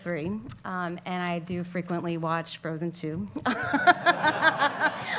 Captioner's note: laughs